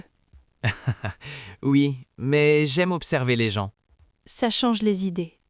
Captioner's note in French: rire